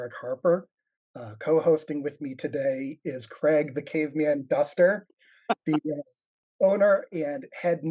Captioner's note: laughs